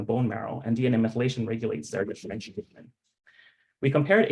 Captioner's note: audio distorting